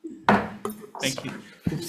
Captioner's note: mallet thudding